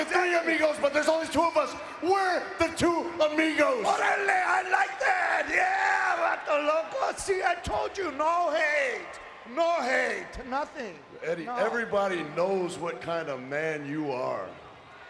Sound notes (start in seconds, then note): 5.9 speaking Spanish